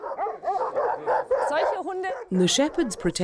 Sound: speaking in foreign language

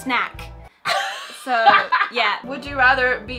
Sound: laughing

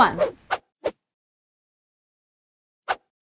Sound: swiping

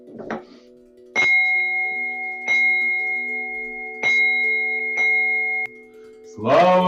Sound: day-day, the sound of the magic bell

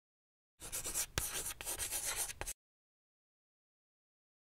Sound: chalk scratching

